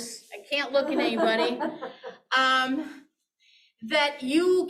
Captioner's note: laughing